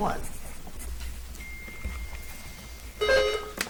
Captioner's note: bell dings; buzzer chimes